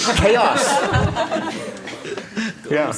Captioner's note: laughter